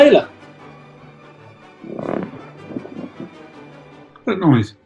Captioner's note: leather creaking